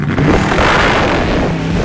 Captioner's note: engine revving